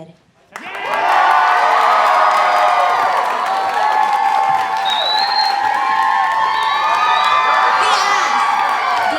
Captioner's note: cheering